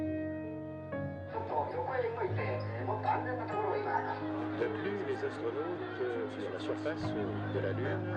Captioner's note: radio reports in multiple languages